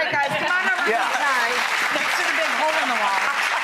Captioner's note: applauding